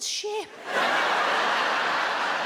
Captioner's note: audience laughs